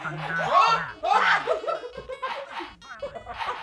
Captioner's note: laughing